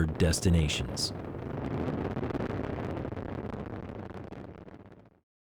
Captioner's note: roar of rocket engines